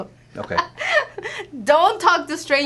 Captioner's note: laughter